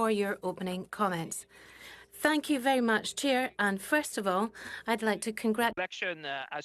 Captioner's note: speaking French